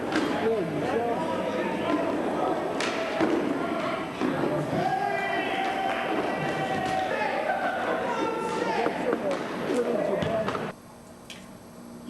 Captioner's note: sounds of hockey